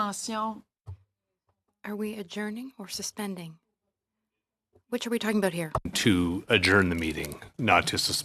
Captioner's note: speaking French